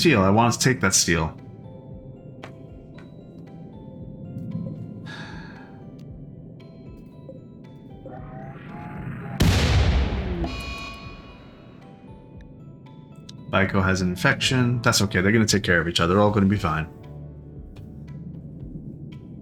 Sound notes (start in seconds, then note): 4.8 sighs